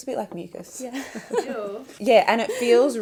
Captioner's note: laughs